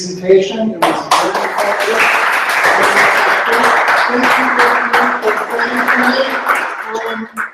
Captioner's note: applause